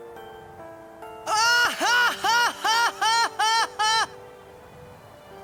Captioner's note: Tidus laughing